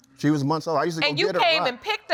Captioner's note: none